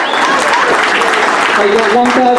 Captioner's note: applause